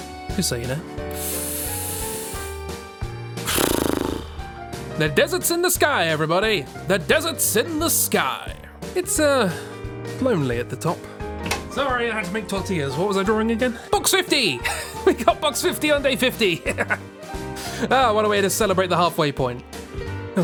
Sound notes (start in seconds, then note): 1.1 inhales; 3.4 exhales